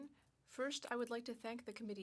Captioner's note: speaking French